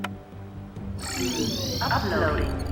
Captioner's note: machine trilling; automated Voice